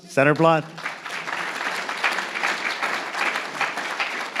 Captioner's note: audience applauds